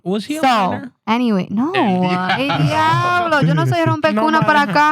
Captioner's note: non-english Speech